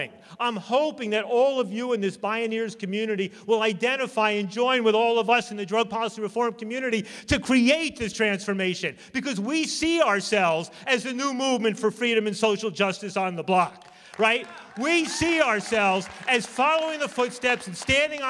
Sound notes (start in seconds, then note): 13.7 applause